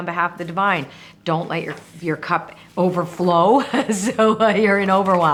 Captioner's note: chuckling